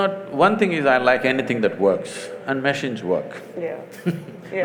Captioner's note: laughs